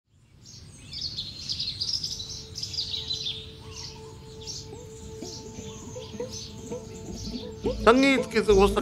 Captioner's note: birds chirping